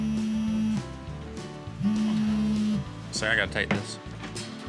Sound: phone beeping/vibrating

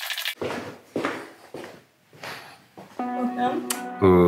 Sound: feet stomping

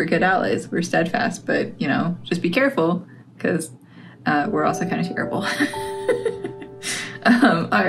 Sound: laugh

